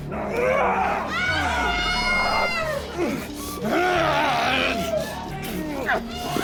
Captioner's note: people screaming; Alan groaning